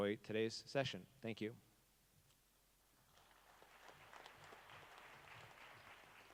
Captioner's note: audience applauding